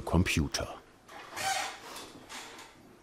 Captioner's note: squealing